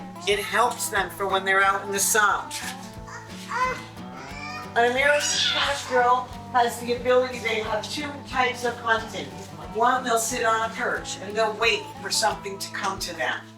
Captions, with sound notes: It helps them for when they're out in the sun. [baby crying] A little girl has the ability, they have two types of content. One, they'll sit on a perch and they'll wait for something to come to them.